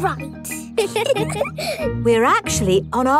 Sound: both giggle

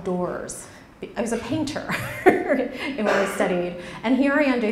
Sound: laughs

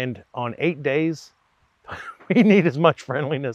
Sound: chuckles

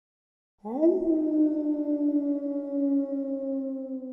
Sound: wolf howls

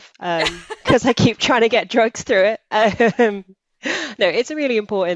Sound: laughs

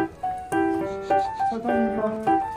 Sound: sniff sniff

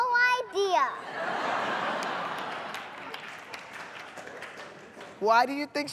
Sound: laughter

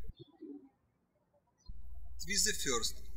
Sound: birds chirping

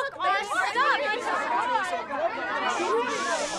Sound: group arguing

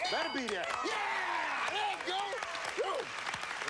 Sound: cheers and applause

